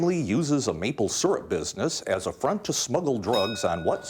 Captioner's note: bell dinging